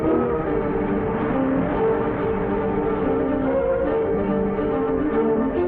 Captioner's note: traffic rumbling